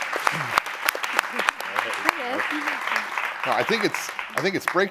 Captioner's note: applause